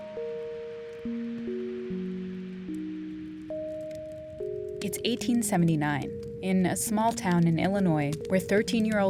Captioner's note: soundbite of fireplace crackling